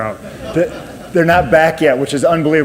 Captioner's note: audience laughs